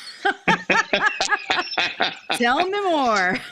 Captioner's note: both laughing